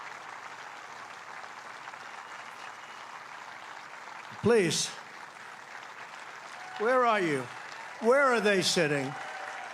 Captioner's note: applause; cheering